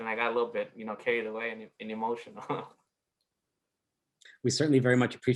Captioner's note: laughs